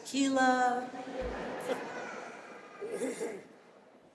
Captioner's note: audience laughing